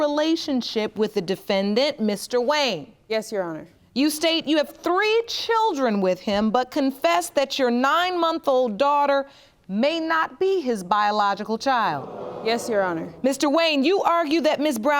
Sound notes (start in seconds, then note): 11.9 audience gasping